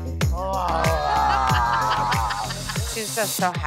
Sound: growls

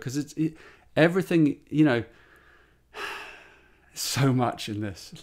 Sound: sighs

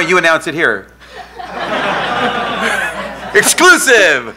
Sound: laughing

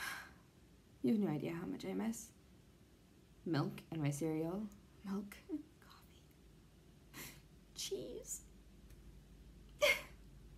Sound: fake dramatic cry

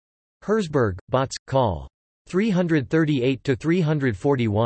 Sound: in German

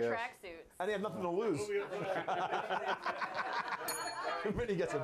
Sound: bell rings

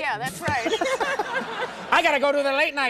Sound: laughing

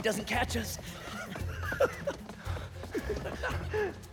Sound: laughs

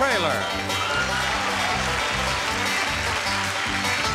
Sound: crowd clapping

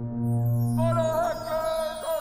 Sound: horn blowing; chimes; hollering

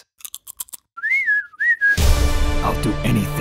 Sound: bird-whistles

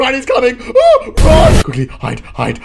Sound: screams

